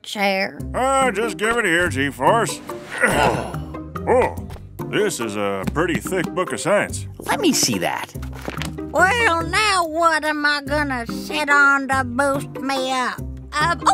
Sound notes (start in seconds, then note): 8.0 soundbite of patting book